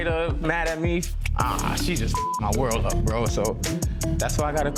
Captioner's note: beep